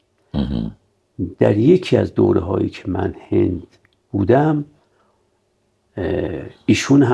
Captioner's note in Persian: گلویش را صاف می‌کند